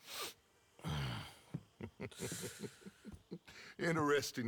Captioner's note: laughs